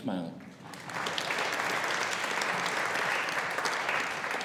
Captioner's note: audience applauding